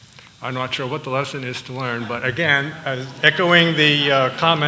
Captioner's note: laughter